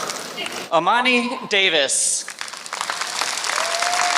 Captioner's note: applause